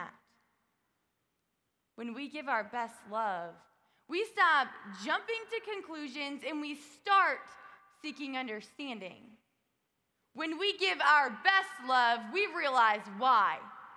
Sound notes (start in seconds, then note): none